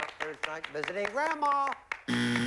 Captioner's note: buzzer